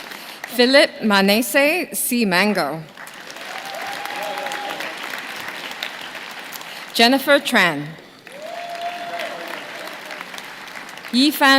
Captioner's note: names being called